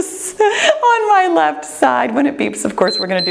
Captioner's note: chuckles